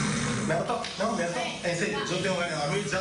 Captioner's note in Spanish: ronquidos